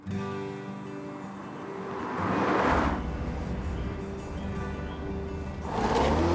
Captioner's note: gentle music; engine rumbling